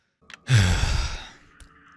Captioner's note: annoyed sigh